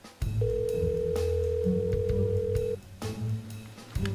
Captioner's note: phone ringing